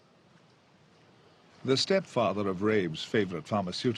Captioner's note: voiceover